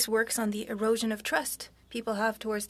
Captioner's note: speaking French